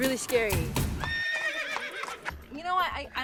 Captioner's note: horse neighs